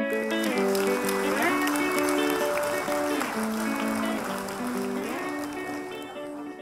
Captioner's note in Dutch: studenten applaudisseren